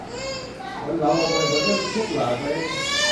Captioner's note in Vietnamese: khóc